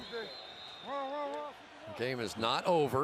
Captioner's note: whistle